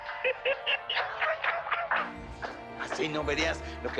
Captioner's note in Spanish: Risas